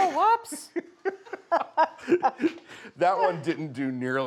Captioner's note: both laughing